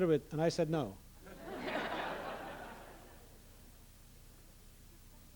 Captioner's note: laughter